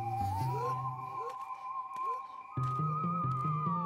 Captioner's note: Blueberry sighs; spooky sounds